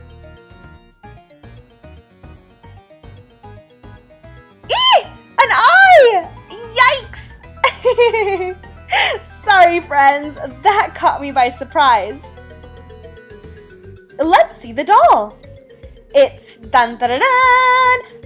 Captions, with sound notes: (shrieks) An eye! Yikes! (laughs) Sorry friends, that caught me by surprise. Let's see the doll. It's...tan-tan-tan-tan!